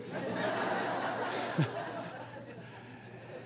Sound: audience laughs

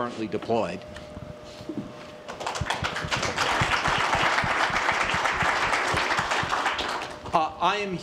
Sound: applause

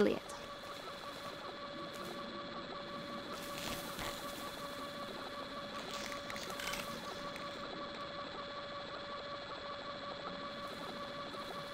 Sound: whirring, slurping electronic sounds

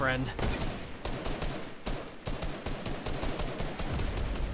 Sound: guns firing

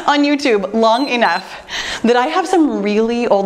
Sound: timer beeps

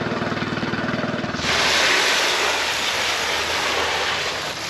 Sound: water spraying

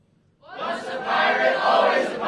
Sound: group in unison

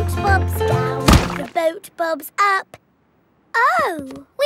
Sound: thuds

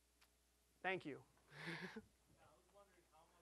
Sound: chuckling

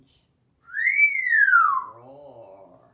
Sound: whistling

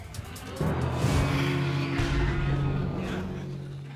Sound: sighs

